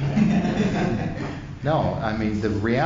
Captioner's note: laughters